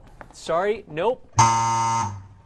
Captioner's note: buzzer